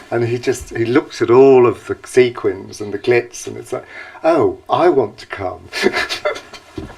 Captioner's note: laughter